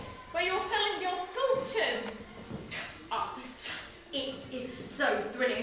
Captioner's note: scoffs